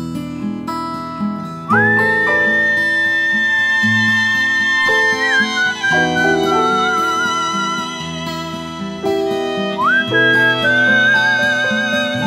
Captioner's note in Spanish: silbido